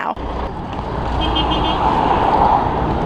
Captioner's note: cars honking